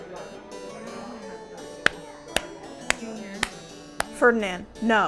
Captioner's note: clapping